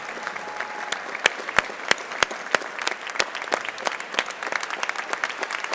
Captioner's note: crowd cheering and clapping